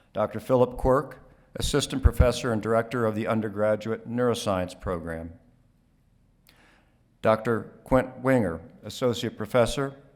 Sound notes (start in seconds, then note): none